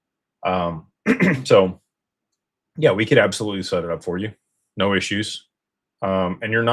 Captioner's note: clears throat